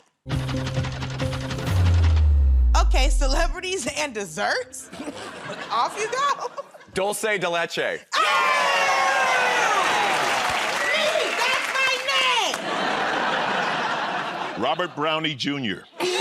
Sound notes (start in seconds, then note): 4.9 chuckles; 8.1 cheers and applause; 12.5 laughter